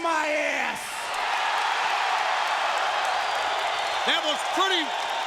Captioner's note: audience cheering